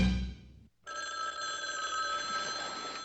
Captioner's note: phone ringing